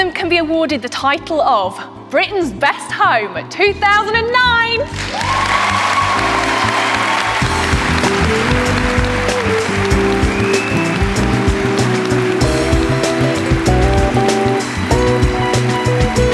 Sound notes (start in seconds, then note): 4.3 audience clapping and cheering; 6.7 upbeat music